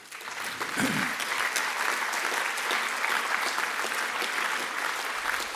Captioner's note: applause